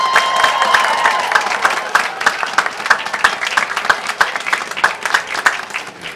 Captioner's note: applause